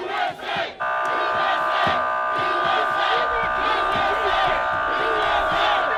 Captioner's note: police sirens buzzing